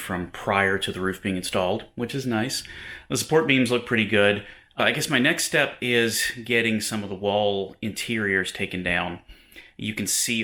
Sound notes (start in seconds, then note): none